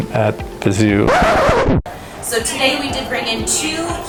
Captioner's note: record scratch sound effect